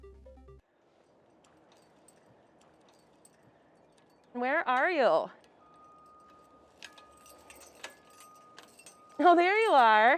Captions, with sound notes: - Where are you? (keys jingling) Oh, there you are.